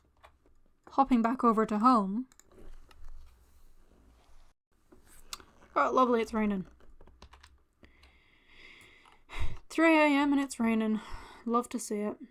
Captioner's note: sigh